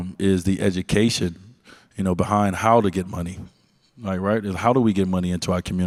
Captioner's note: none